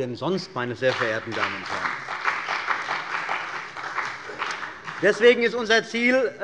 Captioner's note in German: Beifall bei dem BÜNDNIS 90/DIE GRÜNEN und der CDU